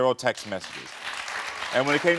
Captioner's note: audience applauding